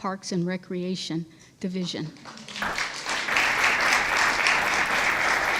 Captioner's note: audience applauds